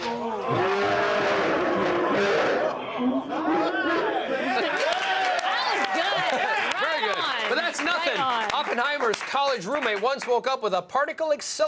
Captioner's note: laughter